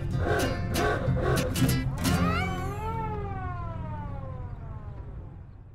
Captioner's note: horn honks